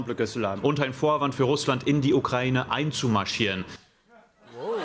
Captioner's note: speaking French; speaking German; cheering and applause